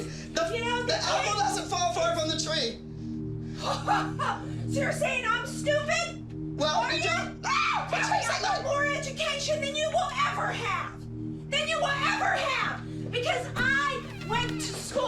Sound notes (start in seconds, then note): 3.0 chuckles angrily